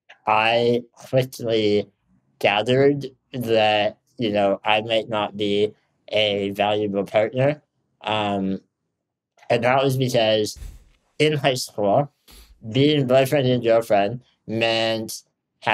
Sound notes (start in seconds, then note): none